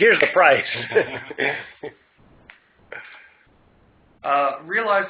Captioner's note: laugh